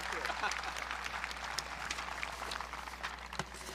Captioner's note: audience cheering